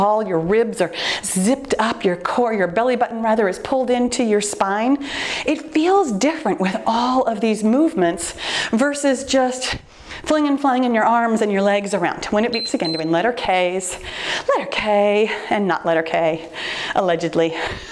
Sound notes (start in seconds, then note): 12.5 timer beeps